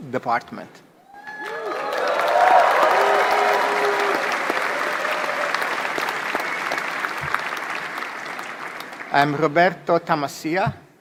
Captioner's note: applause